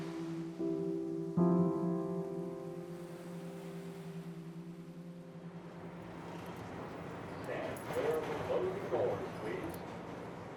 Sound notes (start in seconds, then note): 0.2 water washing over the sand; 5.8 R train rumbles